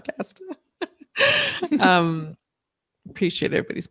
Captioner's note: laughing